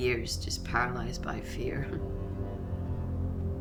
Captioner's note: scoffs; ominous music